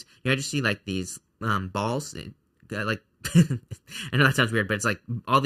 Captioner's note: laughs